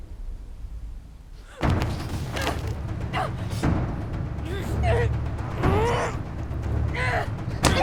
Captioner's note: tense music; Mackenzie gasps